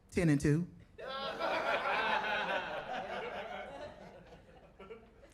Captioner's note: audience laughing